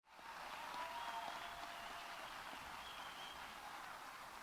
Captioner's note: audience applauding